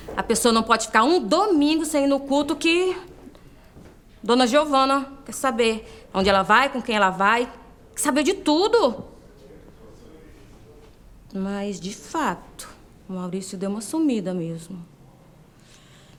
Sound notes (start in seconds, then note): none